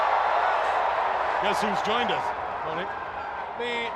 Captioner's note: crowd cheering